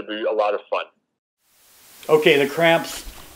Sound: static noise

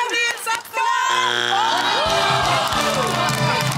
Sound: groaning; cheering

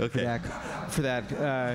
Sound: laughter

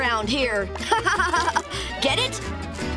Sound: laughing

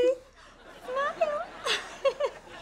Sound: laughing

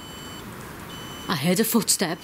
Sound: sensor beeps

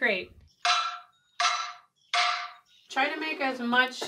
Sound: metal clanking

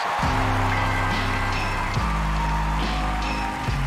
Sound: applause, cheering

